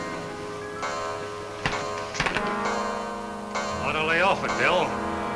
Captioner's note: clock chimes